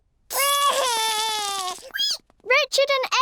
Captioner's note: cries